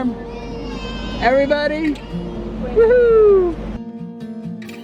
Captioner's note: kids shouting in agreement